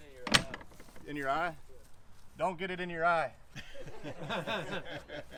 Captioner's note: laughs